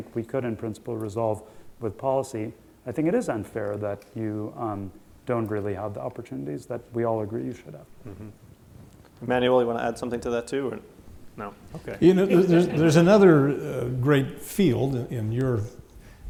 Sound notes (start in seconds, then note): 11.9 laughter